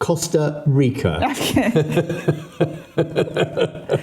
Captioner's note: laughing